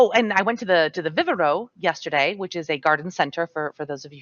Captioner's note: speaks Spanish